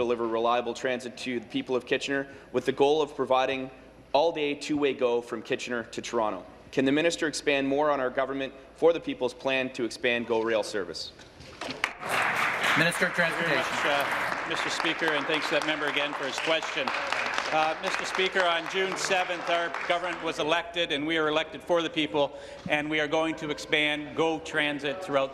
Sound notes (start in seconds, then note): 15.4 applause